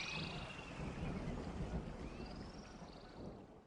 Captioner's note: birds chirping